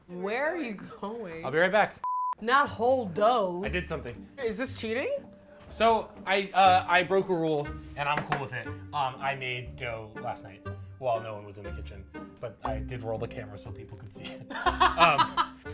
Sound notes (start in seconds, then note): 2.0 electronic beeping; 14.4 laughing